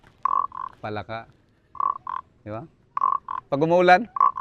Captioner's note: mimics frog croaking